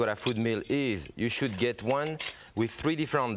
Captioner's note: blades clanging